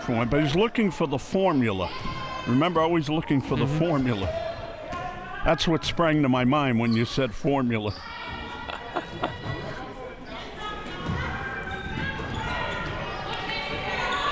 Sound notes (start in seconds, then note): 8.6 laughing